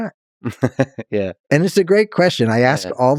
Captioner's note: Lex chuckles